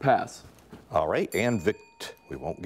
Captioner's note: bell rings